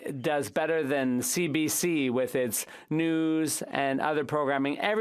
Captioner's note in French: voix de l'interprète